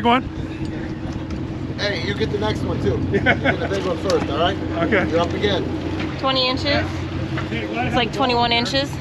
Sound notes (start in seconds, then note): 1.5 chuckling; 3.2 laughing